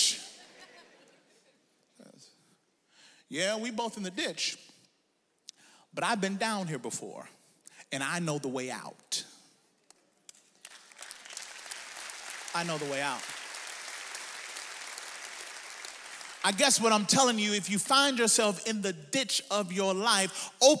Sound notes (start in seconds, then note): 0.3 audience laughs; 10.5 audience applauds